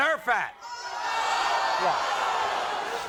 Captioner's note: audience gasping